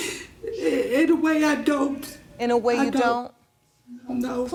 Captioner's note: sniffles